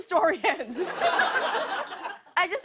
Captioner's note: laughter